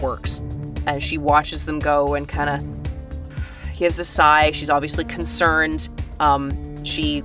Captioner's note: exhales